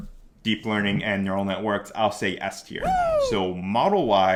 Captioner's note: man cheering